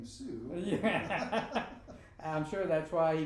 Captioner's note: both laughing